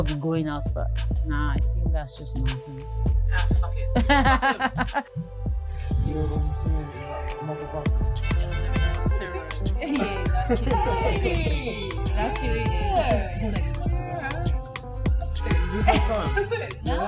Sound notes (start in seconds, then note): 3.9 Sensei Lo laughs; 9.8 Juba exclaims in excitement